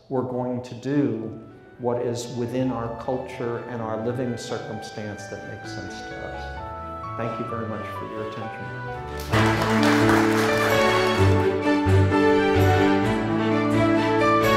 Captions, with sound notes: we're going to do what is within our culture and our living circumstance that makes sense to us. Thank you very much for your attention. (crowd applauds) (upbeat music)